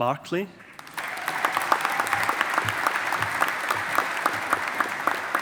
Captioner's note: audience applauding